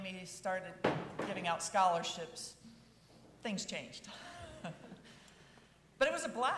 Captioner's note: chuckles